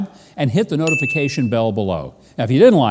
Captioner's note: bell dings